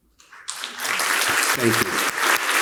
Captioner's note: crowd clapping